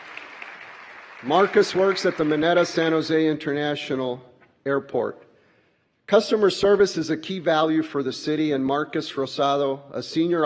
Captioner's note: applause